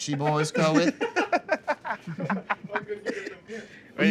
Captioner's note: laughter